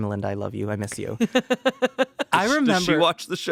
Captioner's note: Amanda laughs